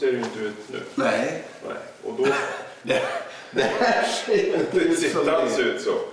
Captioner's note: chuckles